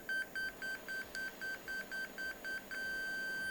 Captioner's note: beeping